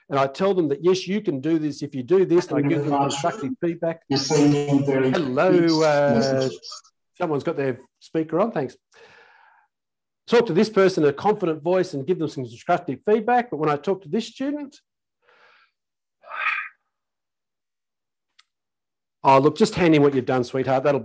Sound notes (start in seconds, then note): 16.3 sighs